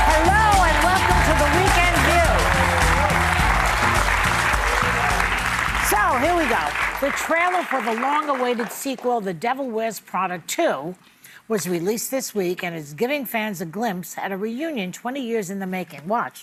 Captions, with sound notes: - Hello and welcome to the weekend, view! (audience applauding) - So here we go. The trailer for the long-awaited sequel, The Devil Wears Prada 2, was released this week and is giving fans a glimpse at a reunion 20 years in the making.